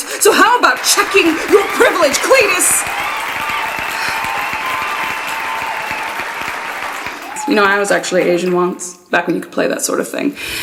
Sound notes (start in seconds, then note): 2.9 cheering